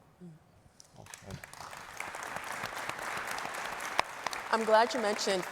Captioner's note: audience applauding